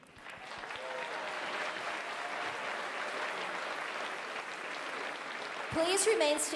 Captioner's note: applause